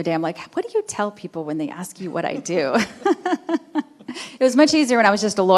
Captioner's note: laughing